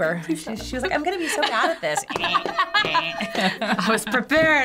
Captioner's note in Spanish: risas